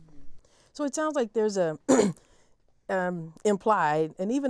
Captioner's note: cough